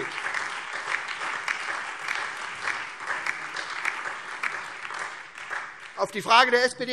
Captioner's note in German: Beifall SPD, Freie Demokraten und DIE LINKE